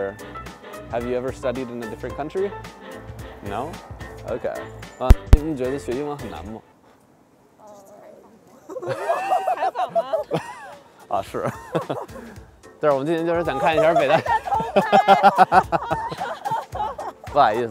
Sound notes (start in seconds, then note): 5.5 speaking in foreign language; 8.6 laughter; 11.3 speaking in foreign language; 15.2 laughter; 17.4 speaking in foreign language